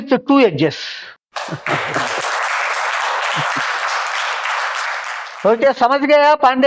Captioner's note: laughs